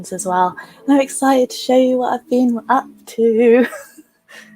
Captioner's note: laughs